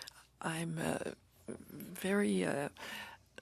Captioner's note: speaking French